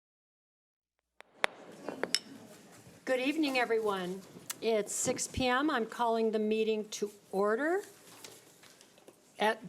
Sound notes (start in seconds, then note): 1.5 gavel bangs; 1.5 overlapping chattering